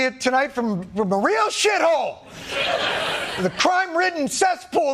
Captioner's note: audience laughing